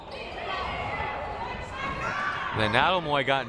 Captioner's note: crowd murmuring